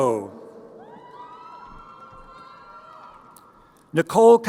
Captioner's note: crowd cheering